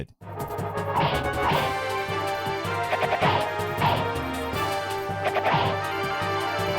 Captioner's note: dramatic music; weapons thumping